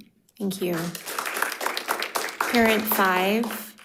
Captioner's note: crowd applauding